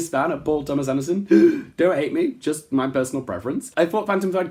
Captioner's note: gasp